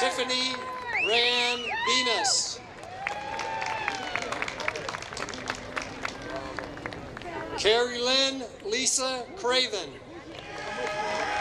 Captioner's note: applause